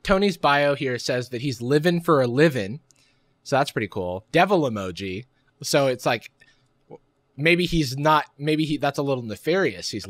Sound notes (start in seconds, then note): none